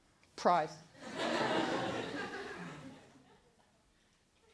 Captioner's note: laughter